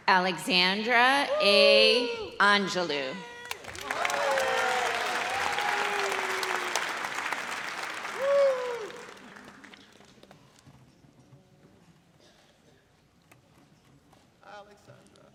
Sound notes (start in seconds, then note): 3.4 audience cheers